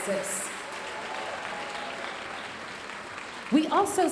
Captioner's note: audience cheering and applauding